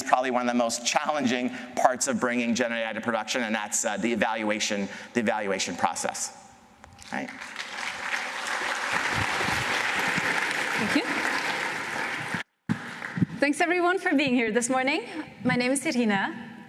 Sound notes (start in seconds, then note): 7.0 applause